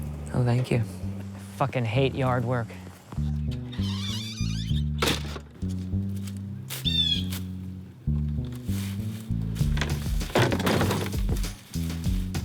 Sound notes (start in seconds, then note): 3.1 creaking; 6.8 bird squawking